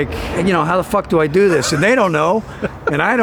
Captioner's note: laughing